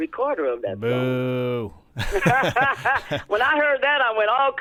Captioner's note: laughter